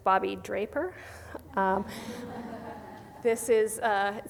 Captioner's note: soft laughter